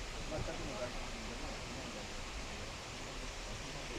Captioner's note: none